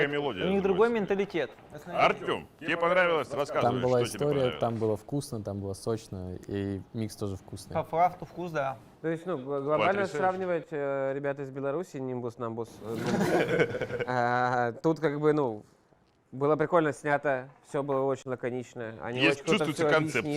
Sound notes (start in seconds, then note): 12.9 laughter